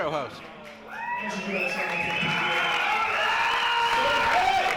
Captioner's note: crowd cheering